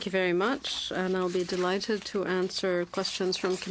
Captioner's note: speaking french